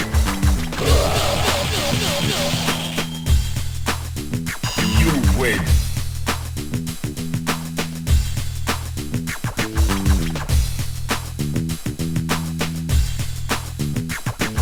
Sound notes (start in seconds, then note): 5.9 laughs